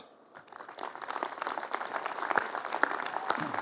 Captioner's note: applause